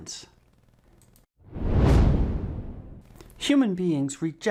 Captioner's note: frame whooshes